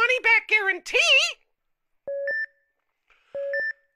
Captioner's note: heart monitor beeping